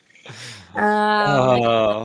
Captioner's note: chuckles